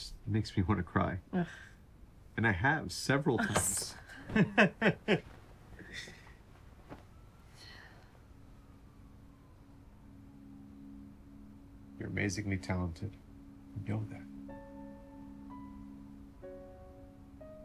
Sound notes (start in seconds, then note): 4.1 chuckles; 7.5 sighs; 14.4 emotional music playing